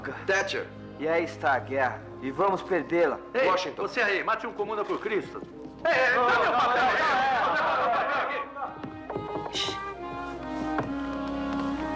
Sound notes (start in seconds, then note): 8.6 knocking On Door